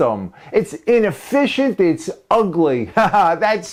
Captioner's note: ha, ha